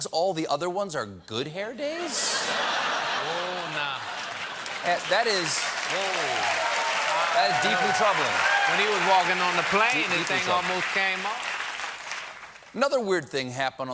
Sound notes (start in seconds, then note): 2.1 laughter; 7.4 cheers and applause